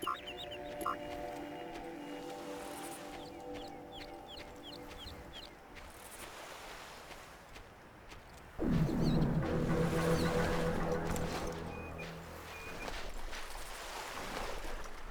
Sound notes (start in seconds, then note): 0.0 birds chirping; 11.4 tense music